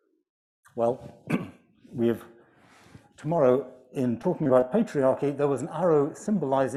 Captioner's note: clears throat